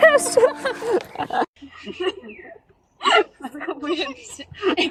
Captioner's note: laugh